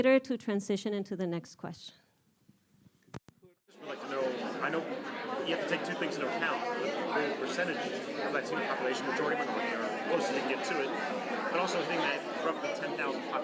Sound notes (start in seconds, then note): 3.9 crowd talking